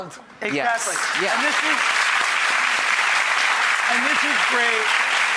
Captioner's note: audience applauds